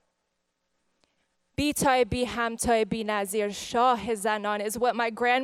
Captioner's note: speaks farsi